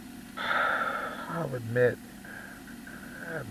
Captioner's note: sighs Shakily